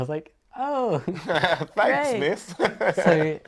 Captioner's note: laughs